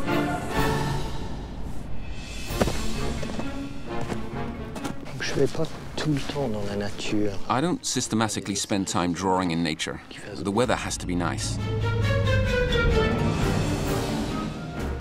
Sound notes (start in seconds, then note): 2.4 footsteps